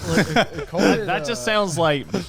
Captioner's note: chuckles